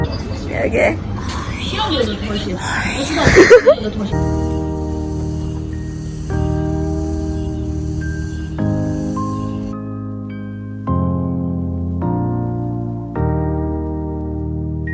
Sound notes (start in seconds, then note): 0.5 raspy; 1.0 loud whisper; 3.1 laughs; 4.4 cicadas